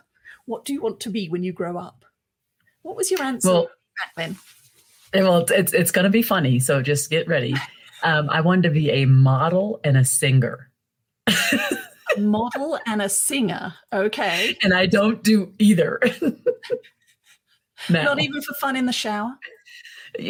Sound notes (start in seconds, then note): 11.2 laughs